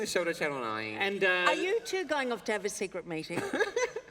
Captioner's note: laughter